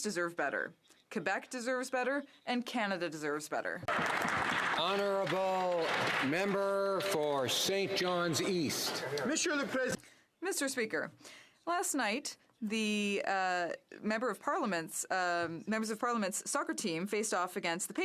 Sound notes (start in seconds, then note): 6.8 some Applause